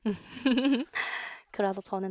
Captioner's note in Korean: 웃음